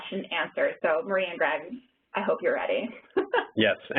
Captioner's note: laughter